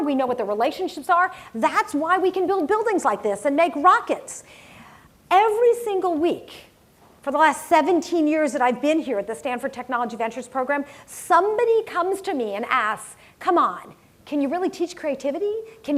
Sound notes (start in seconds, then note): none